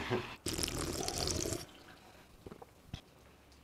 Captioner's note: loud slurping